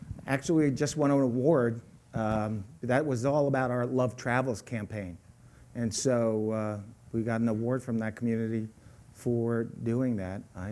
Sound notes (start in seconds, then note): none